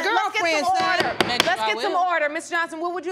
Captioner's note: gavel pounding